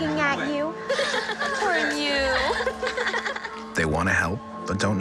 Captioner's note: giggling